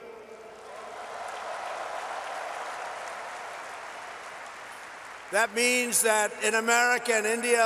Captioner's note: applause